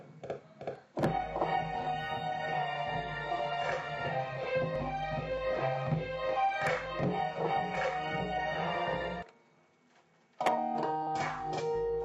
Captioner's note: keyboard Clacking; soft Music